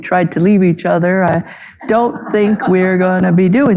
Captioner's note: audience laughing